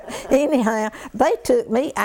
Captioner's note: laughter